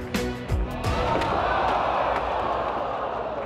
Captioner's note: audience groans